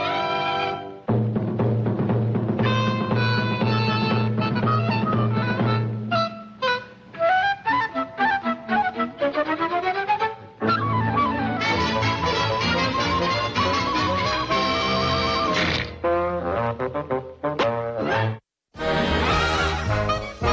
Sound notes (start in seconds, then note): 6.4 light flute music; 9.7 frenzied music; 14.4 Flop chomping; 18.8 theme music